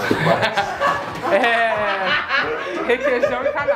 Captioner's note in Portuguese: risos